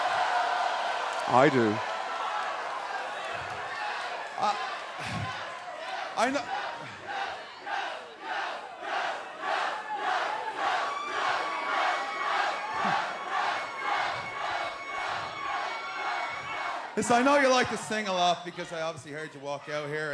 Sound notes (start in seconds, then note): 5.0 fans chanting